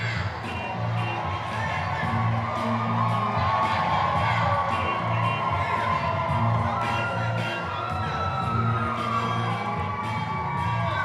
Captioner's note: cheering and applause